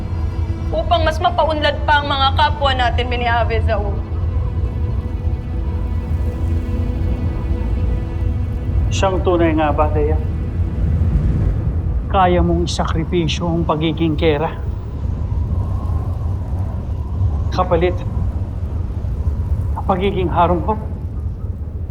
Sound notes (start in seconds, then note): 4.8 wind howling; 11.2 music fades; 15.3 wind howling